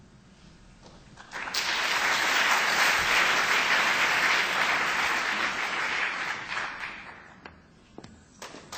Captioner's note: applause